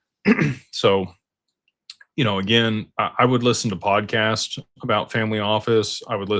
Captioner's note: clears throat